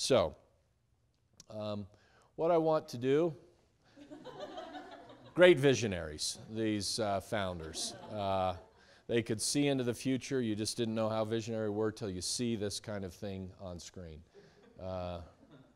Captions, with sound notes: So, what I want to do (students laughing) great visionaries, these founders. They could see into the future. You just didn't know how visionary they were til you see this kind of thing on screen.